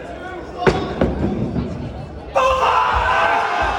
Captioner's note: loud thud; everyone cheering and clapping excitedly